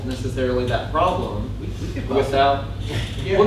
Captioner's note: voiceover